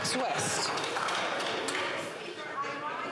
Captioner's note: some Applause